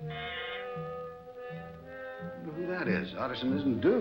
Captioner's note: doorbell ringing